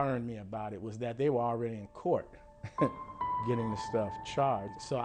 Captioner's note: chuckles